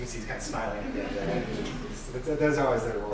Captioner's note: laughing